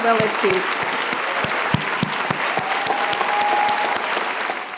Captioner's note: applause